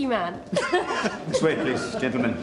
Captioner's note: <i> both laugh</i>